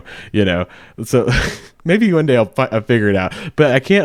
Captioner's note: chuckles